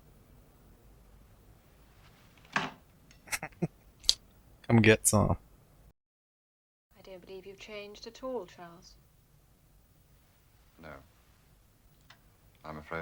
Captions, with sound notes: [Chuckling] Come get some.